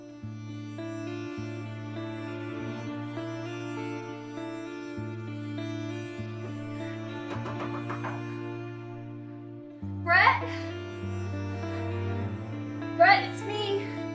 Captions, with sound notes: (brooding music continues) (knocks on door) Brett? Brett, it's me!